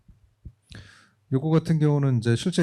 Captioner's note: speaking korean